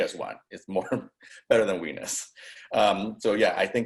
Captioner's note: chuckles